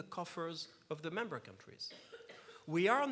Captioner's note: coughs